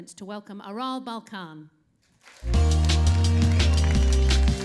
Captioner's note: applause